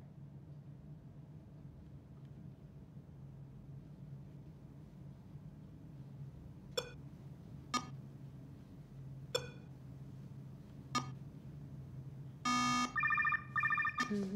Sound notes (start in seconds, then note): 5.8 beeping; 12.5 phone ringing